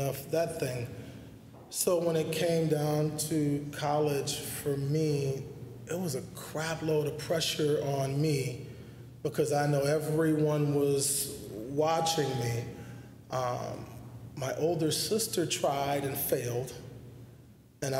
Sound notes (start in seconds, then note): none